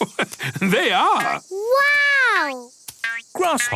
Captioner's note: laugh